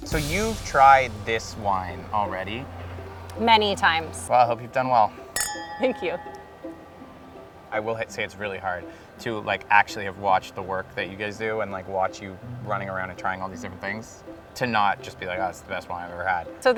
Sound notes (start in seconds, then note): 1.9 cheerful music; 5.2 glasses clanking